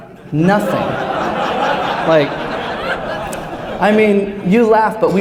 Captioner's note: laughter